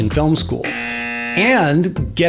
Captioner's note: buzzer